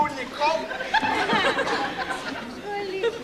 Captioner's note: γέλιο